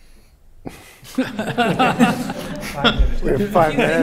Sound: laughter

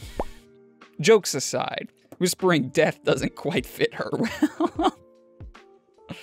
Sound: more laughing

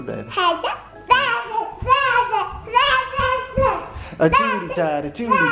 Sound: babbles

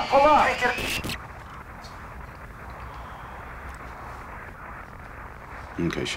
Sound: static

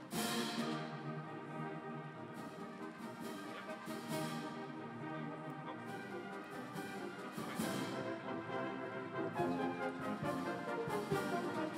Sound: applause

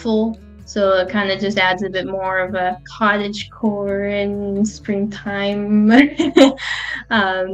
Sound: she laughs

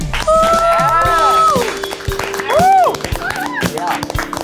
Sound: audience cheers

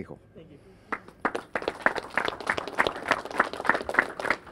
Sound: clapping

